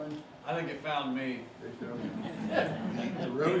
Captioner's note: laughing